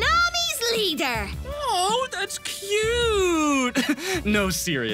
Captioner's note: condescending